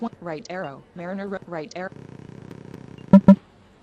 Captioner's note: beep